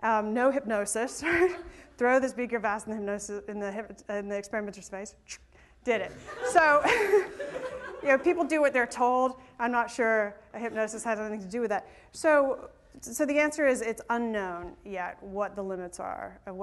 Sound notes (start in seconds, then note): 6.1 laughter